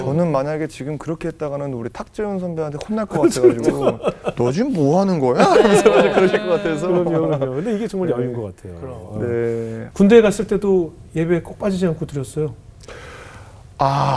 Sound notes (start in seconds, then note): 5.4 laughing